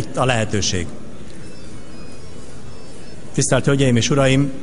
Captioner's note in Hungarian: Nokia csengőhang szól